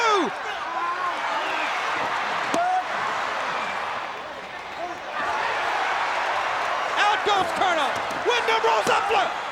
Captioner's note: applause